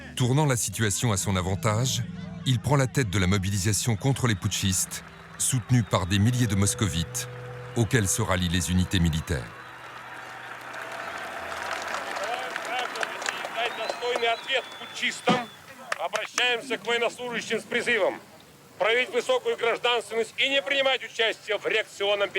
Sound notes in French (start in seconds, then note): 12.2 applaudissements